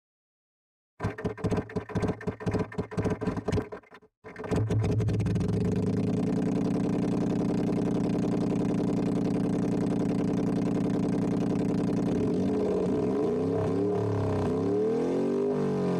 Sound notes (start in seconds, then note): 4.3 engine noises